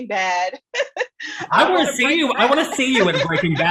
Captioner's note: laughs